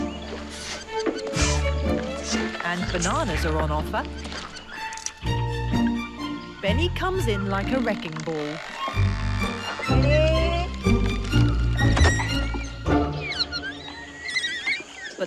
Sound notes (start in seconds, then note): 1.3 bright upbeat music; 7.7 rope creaking; 11.9 Beni squeaking